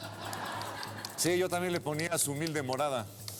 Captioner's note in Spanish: risas